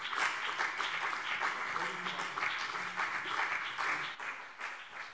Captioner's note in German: Beifall BÜNDNIS 90/DIE GRÜNEN und CDU